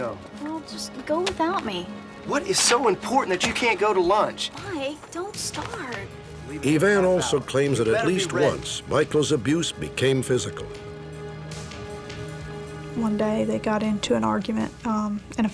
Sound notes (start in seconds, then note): none